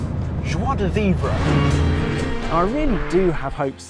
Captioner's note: car roaring